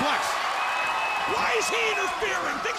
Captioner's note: crowd cheering